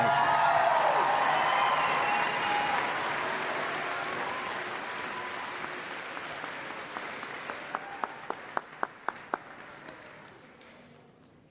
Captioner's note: applause and Cheering